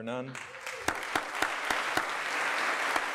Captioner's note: applause